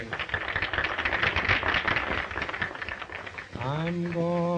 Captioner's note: audience applauding